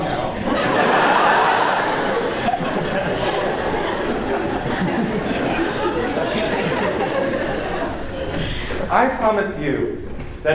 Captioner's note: laughter